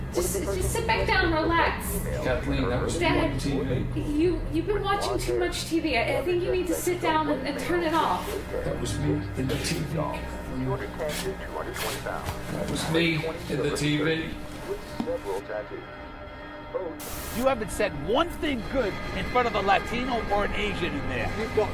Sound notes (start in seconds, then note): 10.6 TV noises; 15.7 eerie music